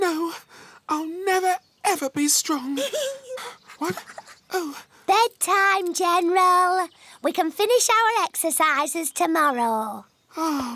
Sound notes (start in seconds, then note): 2.7 giggles